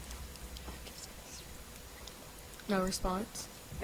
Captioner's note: contestant speaks faintly